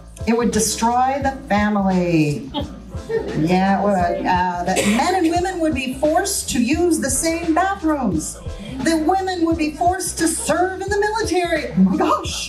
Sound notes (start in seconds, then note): 2.4 audience chuckles; 4.7 audience member coughs